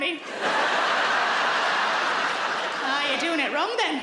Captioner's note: audience laughs